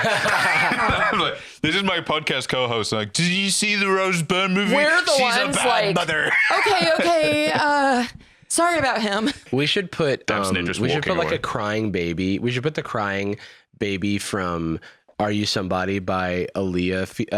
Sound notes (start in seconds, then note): 0.0 laughs; 3.5 slurring